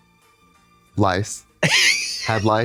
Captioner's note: Katya chuckles